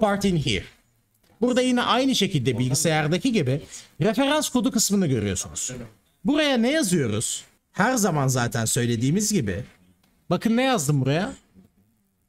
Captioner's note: explaining in Turkish